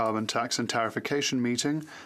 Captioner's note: speaking French